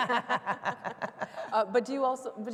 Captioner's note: laughing